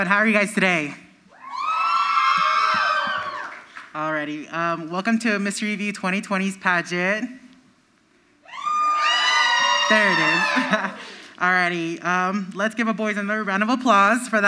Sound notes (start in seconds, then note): 1.3 crowd screams; 8.4 crowd screams; 10.1 laughs